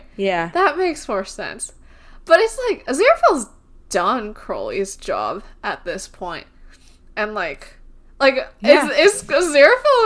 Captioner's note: laughing